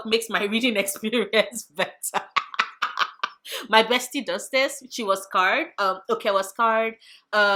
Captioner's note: laugh